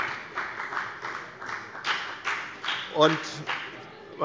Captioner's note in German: Beifall bei der FDP